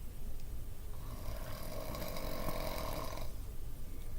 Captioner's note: very loud snore